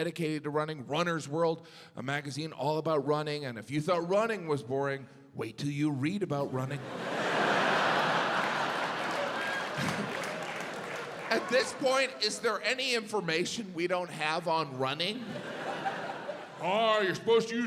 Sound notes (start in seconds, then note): 8.5 audience laughs